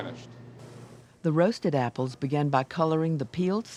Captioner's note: voiceover